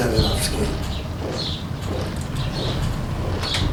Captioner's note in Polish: odgłosy czołgów